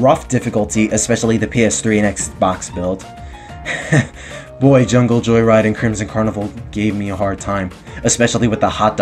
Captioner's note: sigh